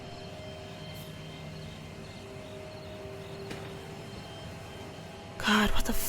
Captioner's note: intense music; insects chirp